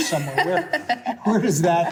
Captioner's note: laughter